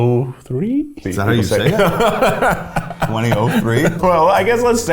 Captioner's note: laughs